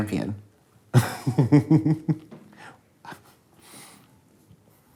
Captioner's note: laughing